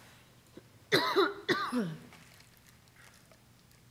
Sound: coughing

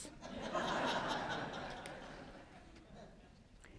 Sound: audience laughs

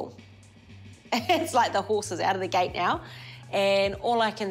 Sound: chuckles

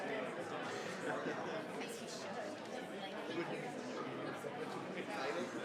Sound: crowd chattering continues

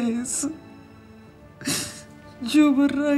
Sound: crying

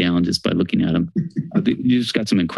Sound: chuckles

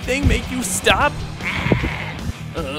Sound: bleating

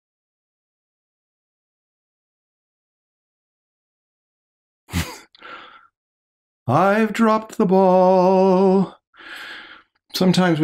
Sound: chuckles

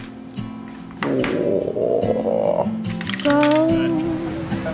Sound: groans

